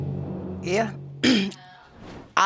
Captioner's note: ahem